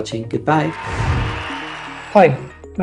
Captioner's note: cheering